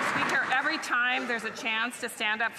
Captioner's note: some Applause